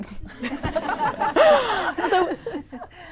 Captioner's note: laughs